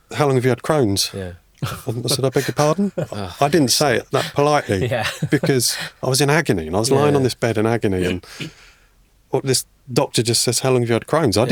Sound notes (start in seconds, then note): 1.6 chuckling; 5.3 chuckles